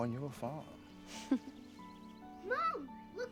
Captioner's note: laughs